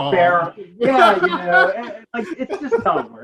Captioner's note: laughing